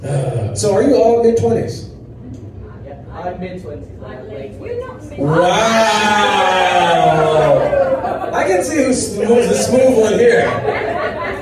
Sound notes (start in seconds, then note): 5.2 crowd groans